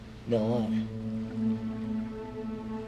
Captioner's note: French